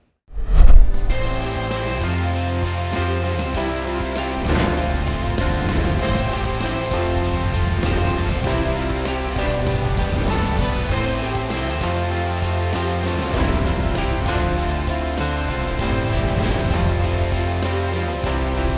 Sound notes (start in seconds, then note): 0.2 whoosh; 0.8 theme music; 4.2 whoosh